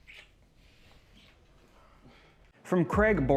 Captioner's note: characters breathing heavily